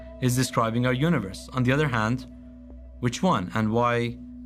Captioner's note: none